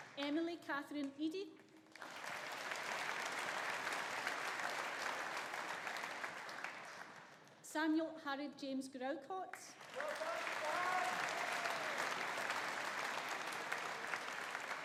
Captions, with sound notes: Emily Catherine Eadie. (AUDIENCE APPLAUDING) Samuel Harold James Groucott. (AUDIENCE APPLAUDING) (AUDIENCE CHEERING)